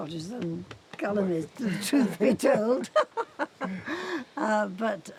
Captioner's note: English accent laughing